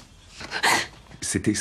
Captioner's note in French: Soupir de surprise d'Anastasia